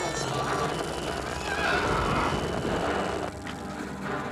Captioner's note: screeching